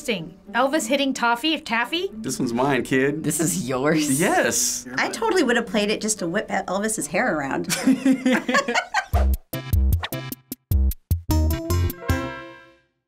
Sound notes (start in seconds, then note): 7.7 laughing; 9.0 quirky interlude